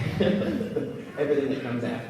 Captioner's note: laughs